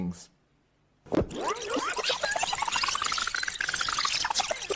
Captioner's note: tape squealing